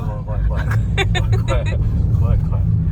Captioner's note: laughter